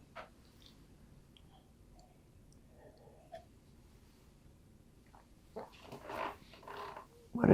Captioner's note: drinking